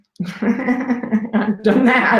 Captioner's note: laughs